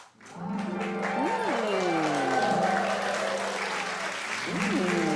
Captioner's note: magical sound effects